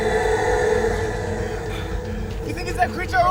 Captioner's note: breathing heavily